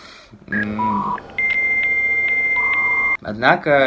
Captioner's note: dial-up connection sounds